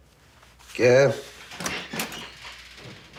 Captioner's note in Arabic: يفتح الباب